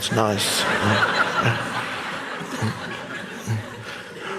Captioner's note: audience laughs